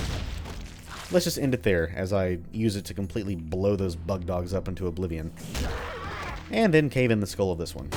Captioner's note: thwack